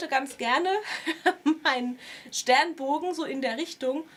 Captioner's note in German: gelächter